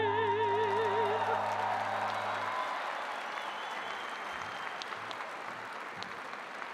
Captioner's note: audience applauding and cheering